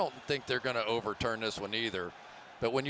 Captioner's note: crowd boos